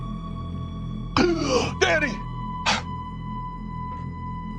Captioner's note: gasps